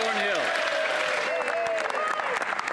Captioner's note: applause